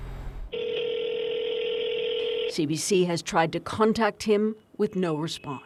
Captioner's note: phone ringing